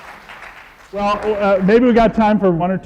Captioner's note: audience applause